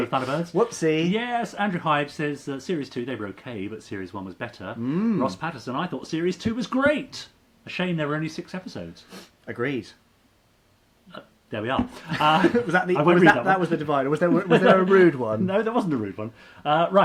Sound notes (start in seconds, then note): 11.9 laughing